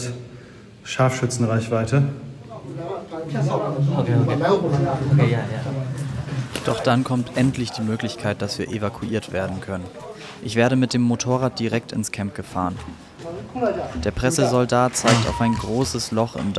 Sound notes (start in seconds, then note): 3.6 bubble of voices